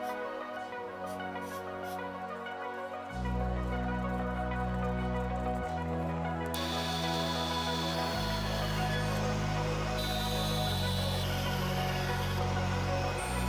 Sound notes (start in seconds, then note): 0.0 gentle music; 10.2 whistle blowing; 12.9 gentle music